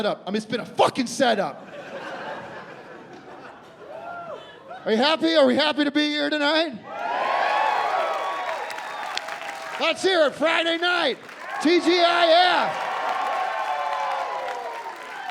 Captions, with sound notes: I mean, it's been a fuckin' setup. Are you happy? Are we happy to be here tonight? [crowd cheering] Let's hear it. Friday night. TGIF! [cheering and applause]